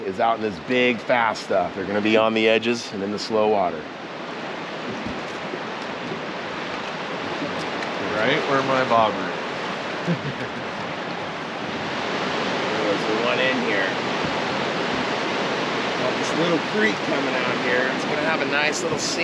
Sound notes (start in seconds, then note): 10.0 chuckling; 10.0 water rushing